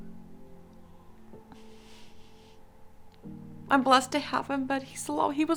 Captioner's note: sighing